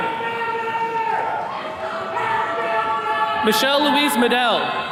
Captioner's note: attendees cheering